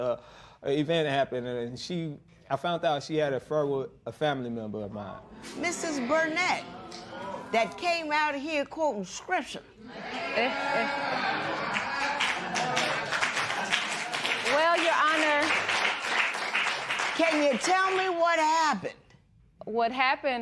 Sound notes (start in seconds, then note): 9.8 spectators murmur; 13.1 applause